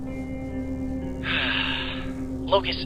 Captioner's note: sighs